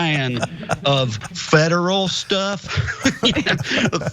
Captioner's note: laugh